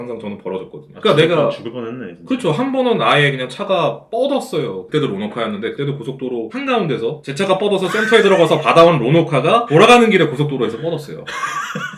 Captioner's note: laughs without any thoughts